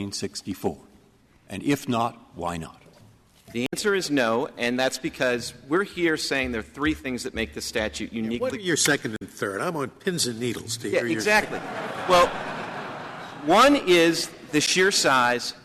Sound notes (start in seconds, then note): 11.2 laughter